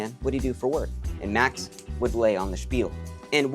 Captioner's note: finger snap